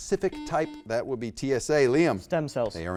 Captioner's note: buzzer beeps